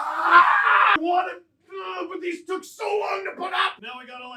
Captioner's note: comes into frame, screaming; various sounds of figurines moving